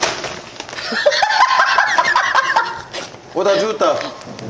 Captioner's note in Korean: 넘치는 박력에 웃음 만개